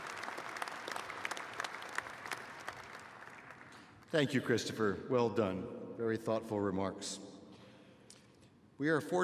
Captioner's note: applause